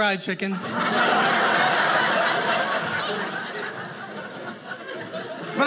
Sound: audience laughing

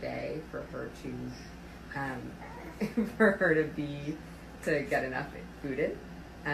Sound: chuckles

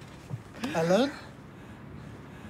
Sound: man's voice

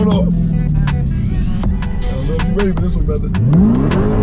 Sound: car engine growling; car engine revving; upbeat hiphop music

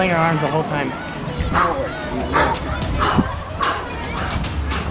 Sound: dramatic panting

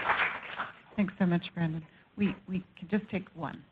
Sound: applause

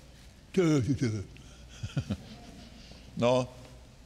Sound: Kenneth laughing

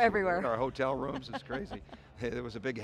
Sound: laughing

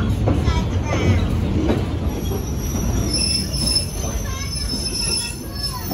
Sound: brakes squealing

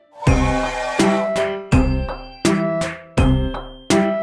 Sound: loud train whistle

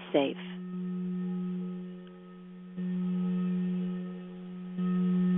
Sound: vibrating tone

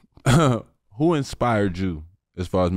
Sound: chuckles

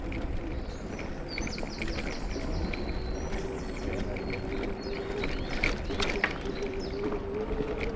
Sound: birds singing 🎶

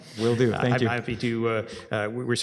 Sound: laughs

